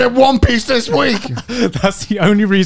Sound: chuckles

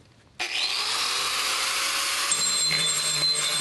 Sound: grinder whirring

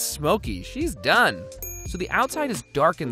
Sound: bell dings

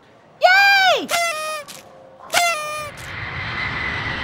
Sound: party horn

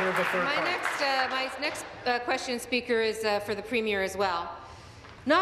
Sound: applause

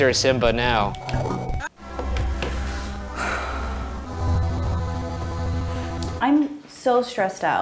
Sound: sighs

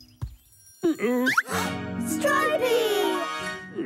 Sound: gasps; grumbling

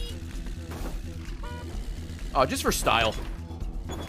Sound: none

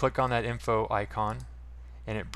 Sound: mouse click

